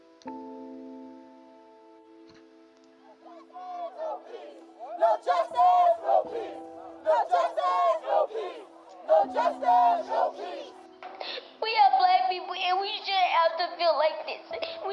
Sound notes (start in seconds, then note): 3.7 in unision; 11.9 sobbing